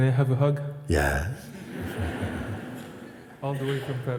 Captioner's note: laughter